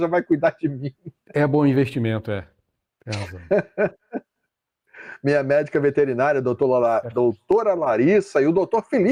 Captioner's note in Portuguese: risadas